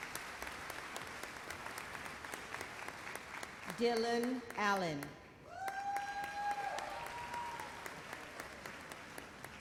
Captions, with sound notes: Dylan Allen. (audience cheers)